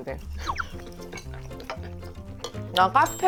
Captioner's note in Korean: 피식